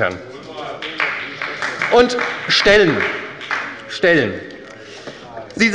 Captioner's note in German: Beifall bei der SPD